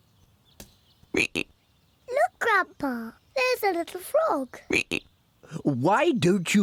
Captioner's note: ribbit